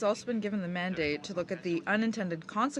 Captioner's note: speaking in french